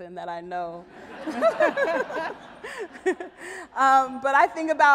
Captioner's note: audience laughs